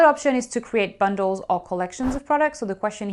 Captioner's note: air whooshing